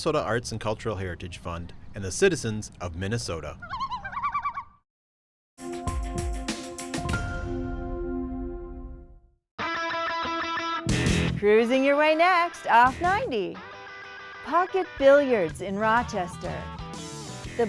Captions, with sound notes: the Minnesota Arts & Cultural Heritage Fund and the citizens of Minnesota. (loon calling) (bright music) (upbeat rock music) - Cruising your way next off 90, pocket billiards in Rochester,